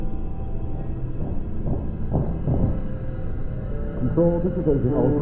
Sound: footsteps

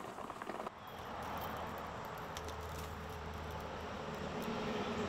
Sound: traffic whooshes

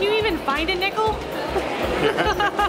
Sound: laughing

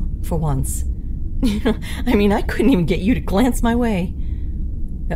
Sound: chuckle

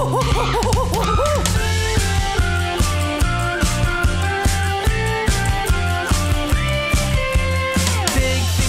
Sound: more whistling

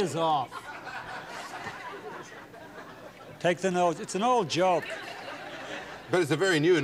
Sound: laughter

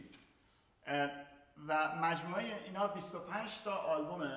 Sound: speaking in farsi

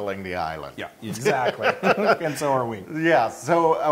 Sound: laugh

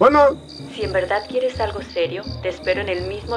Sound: voz de mujer

